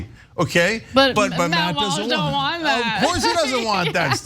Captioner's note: laugh